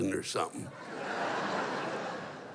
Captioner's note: laughter